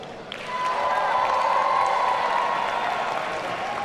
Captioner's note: audience cheering